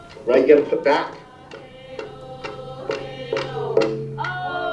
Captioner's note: chanting